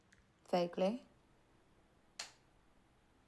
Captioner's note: none